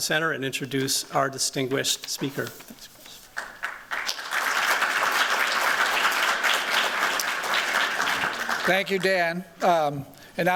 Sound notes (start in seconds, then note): 3.3 applause